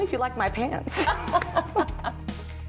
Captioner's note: laughter